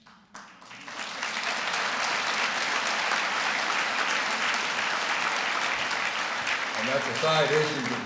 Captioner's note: applause